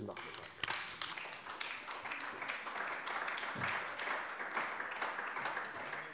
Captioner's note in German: Beifall bei der CDU